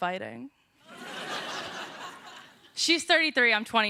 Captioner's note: laughter